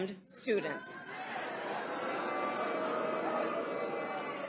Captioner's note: crowd booing